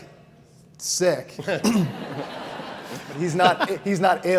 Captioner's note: audience laughs